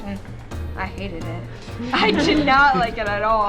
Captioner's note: laughter